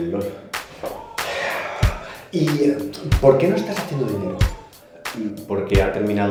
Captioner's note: sighs